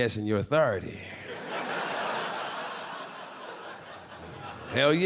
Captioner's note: audience laughing